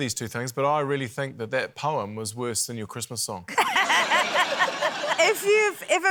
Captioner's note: laughter